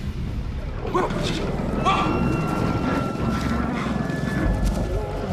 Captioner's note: yelling and growling